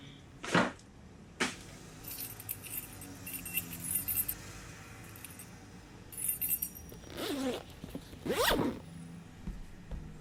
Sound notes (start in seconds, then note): 2.1 keys jingling; 8.2 bag zipping